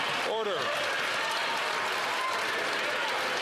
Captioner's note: some Applause